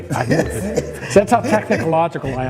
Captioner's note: laughs